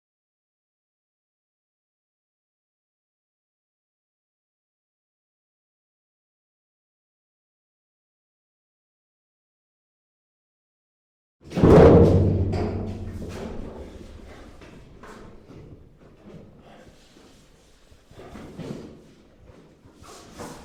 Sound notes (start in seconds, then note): 11.6 metal clunks; 16.5 Carling breathes heavily